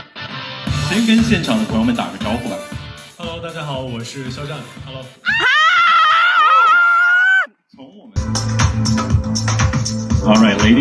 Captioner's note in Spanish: grito